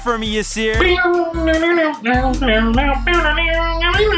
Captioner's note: humming; bell ringing